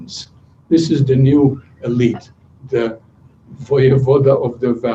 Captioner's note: non-english speech